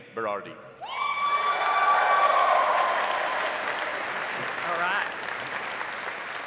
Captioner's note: audience cheering; audience applauding